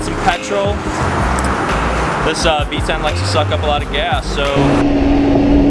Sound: engine

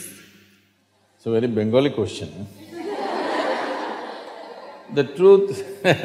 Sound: laughter; laughs

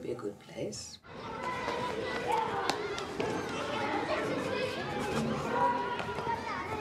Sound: children playing and running

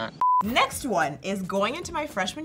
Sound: beep

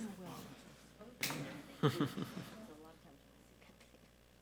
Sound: chuckles

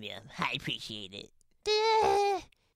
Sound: dazed noises

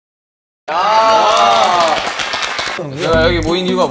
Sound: clap clap clap clap clap

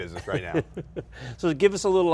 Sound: laughs

